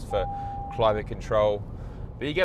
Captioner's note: car bongs